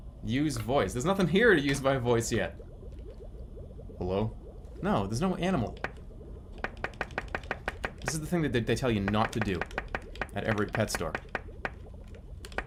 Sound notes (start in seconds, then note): 5.7 taps glass